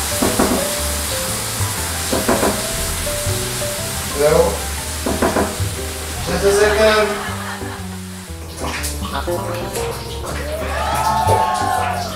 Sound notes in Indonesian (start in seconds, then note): 1.3 Tok tok